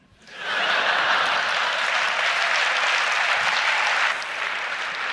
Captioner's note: audience applauds